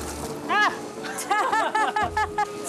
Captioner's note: fish splashes; laughs